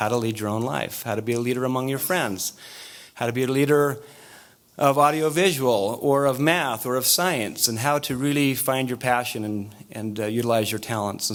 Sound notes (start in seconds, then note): none